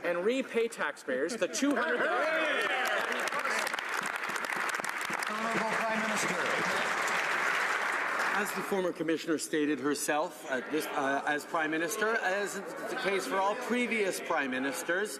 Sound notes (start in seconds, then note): 8.9 some Applause